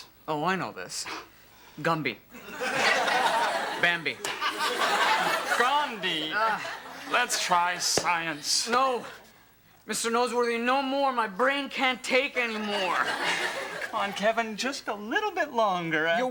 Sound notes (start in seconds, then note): 2.4 audience laughs; 12.3 audience laughs